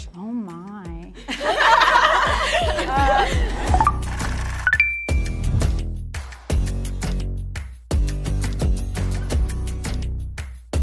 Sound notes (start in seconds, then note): 1.2 everyone laughs; 3.9 rhythmic music; 4.6 chiming tones